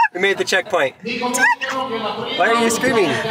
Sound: squeals

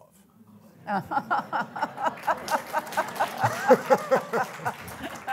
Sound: audience applauding

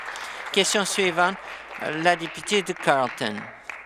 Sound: applause

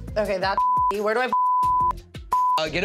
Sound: beep

